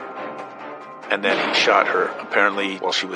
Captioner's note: gunfire blasting